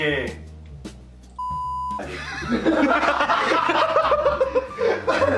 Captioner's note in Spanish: risas